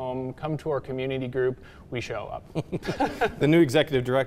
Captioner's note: chuckles